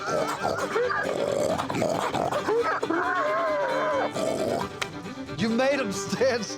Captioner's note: continues grunting; laughs